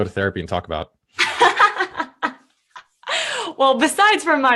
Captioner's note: laughing